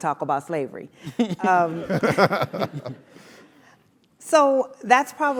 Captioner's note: laugh